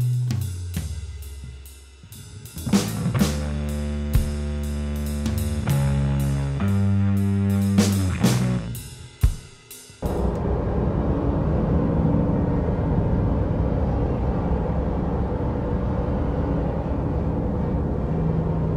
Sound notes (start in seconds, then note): 2.6 deep synth music; 2.7 light drumming music; 10.1 dull buzzing